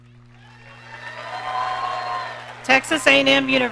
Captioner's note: audience cheering